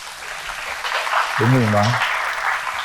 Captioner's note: applause